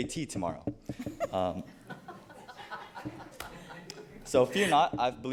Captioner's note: people laughing